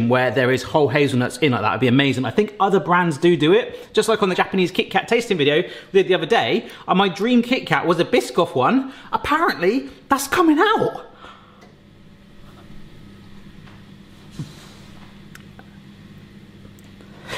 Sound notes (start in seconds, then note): none